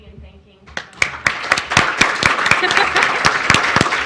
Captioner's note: applause